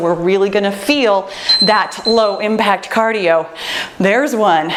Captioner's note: timer beeps